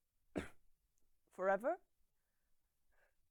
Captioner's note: soft cough